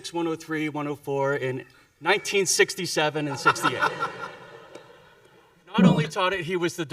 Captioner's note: audience laughing